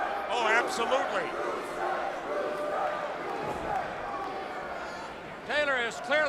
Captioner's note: crowd cheering